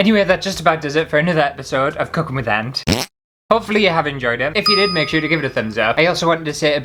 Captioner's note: fart!